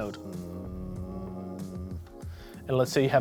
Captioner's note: humming